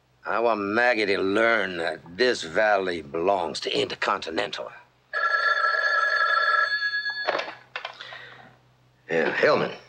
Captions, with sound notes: I want Maggie to learn that this valley belongs to Intercontinental. (phone rings) Yeah, Hellman.